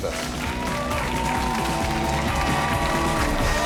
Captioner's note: audience cheering